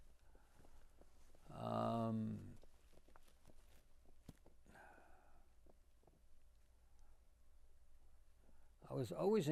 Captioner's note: pauses 8 seconds